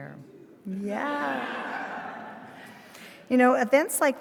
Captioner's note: attendees laughing